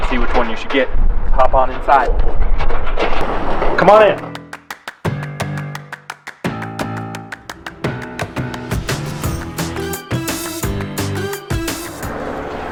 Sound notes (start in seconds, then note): 2.8 door opening; 4.2 upbeat music